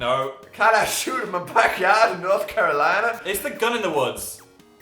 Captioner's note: southern American accent